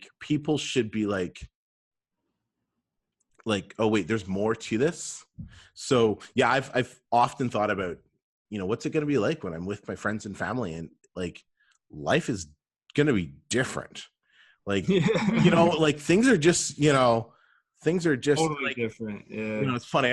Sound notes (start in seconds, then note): 14.8 laughter